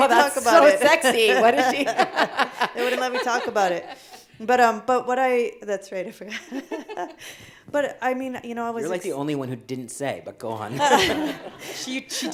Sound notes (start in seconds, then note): 2.4 laughing; 6.6 laughing